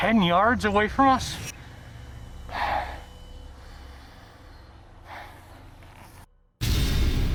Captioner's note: sighs